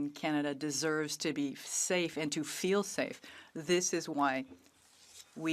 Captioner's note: speaking French